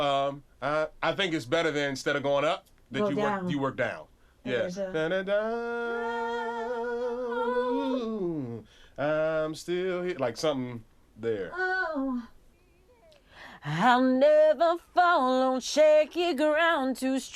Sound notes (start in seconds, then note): 4.7 both vocalizing